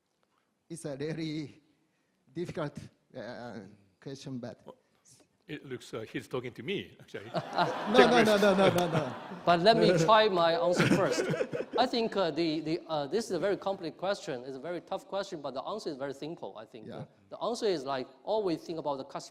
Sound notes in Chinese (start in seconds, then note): 7.2 笑声